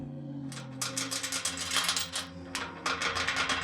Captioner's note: chains rattling